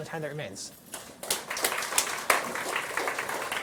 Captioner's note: applause